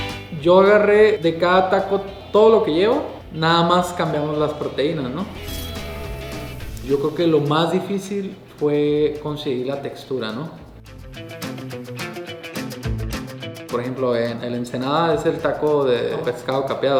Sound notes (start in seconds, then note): 0.8 speaking Spanish; 12.4 western music; 13.8 speaking Spanish